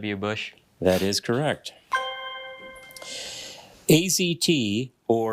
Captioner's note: bell ringing